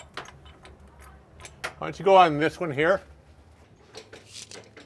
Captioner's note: none